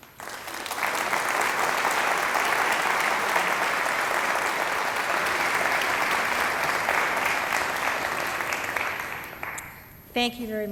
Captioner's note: applause